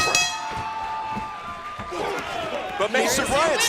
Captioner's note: bell ringing